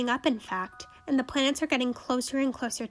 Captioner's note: none